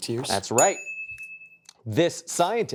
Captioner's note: correct chime